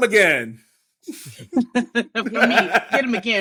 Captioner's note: laughing